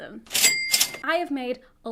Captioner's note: cash register chimes